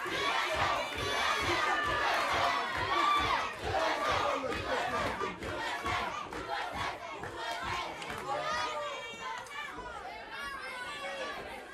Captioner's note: crowd cheering